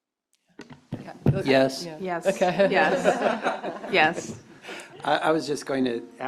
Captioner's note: laughter